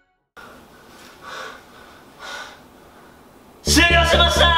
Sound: panting

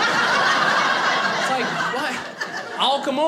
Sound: audience laughing

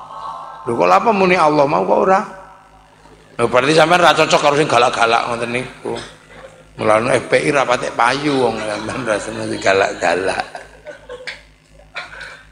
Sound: laughs

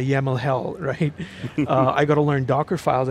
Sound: panel laughing

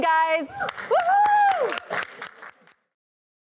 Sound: cheers and applause

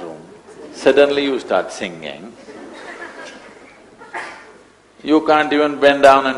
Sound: few laugh

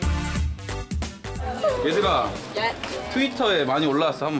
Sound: tears

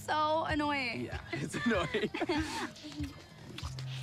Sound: both chuckle

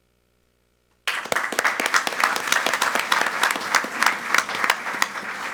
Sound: audience applauds

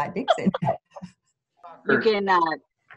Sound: laughter

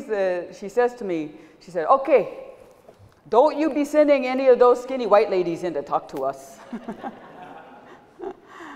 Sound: laughter

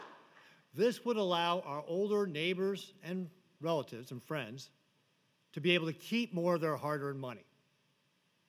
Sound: applause

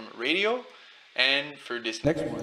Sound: echoing voice with water dripping

